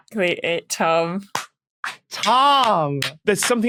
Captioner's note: applauds